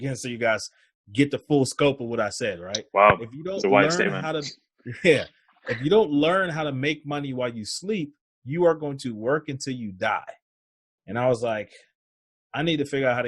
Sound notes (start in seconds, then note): 3.6 laughs